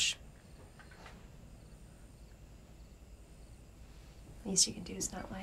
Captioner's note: crickets chirping